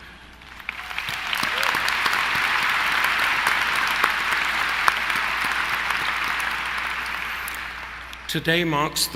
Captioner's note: applause